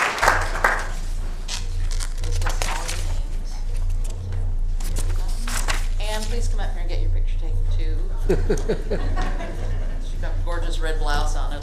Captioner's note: applause